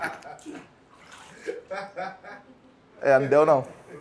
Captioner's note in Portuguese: risadas